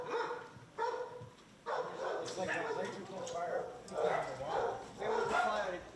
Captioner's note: overlapping chattering